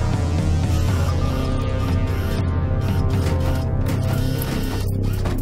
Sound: robots whirring and clanging

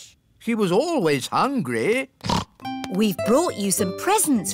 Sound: snorts

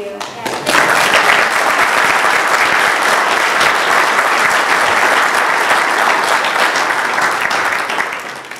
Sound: applause

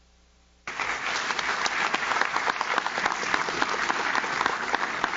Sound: audience claps

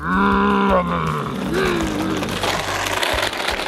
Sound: engine roars

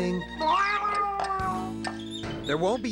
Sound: meowing

